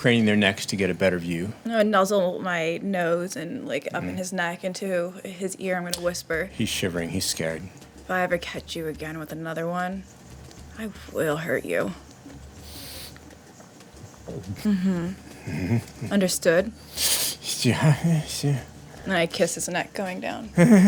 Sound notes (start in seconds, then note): 14.0 gulping